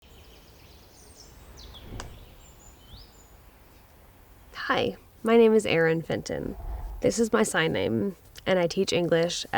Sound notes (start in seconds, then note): 0.1 birds chirping